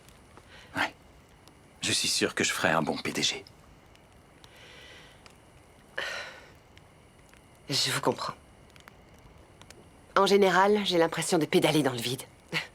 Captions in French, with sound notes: - Ouais... Tu sais, je pourrais être génial à ce travail. (soupirs) - Je vois ce que tu veux dire. La plupart du temps, j'ai l'impression comme un hamster dans une roue.